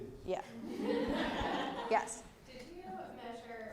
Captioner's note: laugh